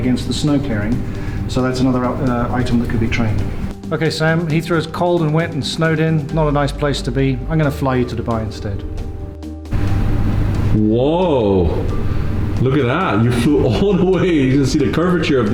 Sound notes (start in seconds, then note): 9.9 wind whooshing